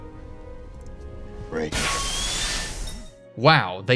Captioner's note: loud pipe bursting